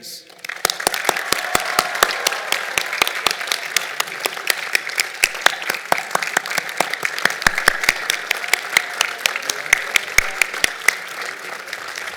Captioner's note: applause